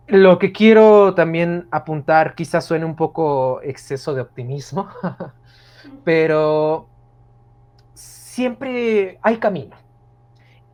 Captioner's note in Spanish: ríe